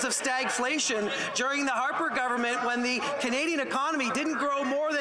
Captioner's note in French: voix de l'interprète